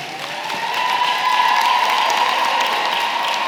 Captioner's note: cheering & applause